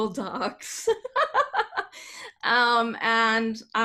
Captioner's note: laughing